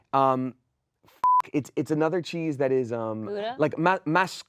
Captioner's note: beep